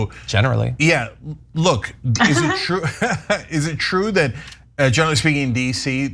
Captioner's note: laugh